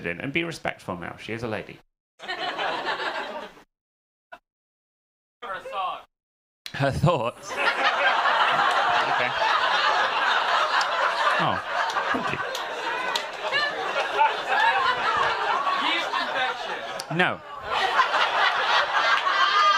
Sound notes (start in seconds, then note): 2.2 audience laughing; 7.9 audience laughing; 11.2 audience laughing hysterically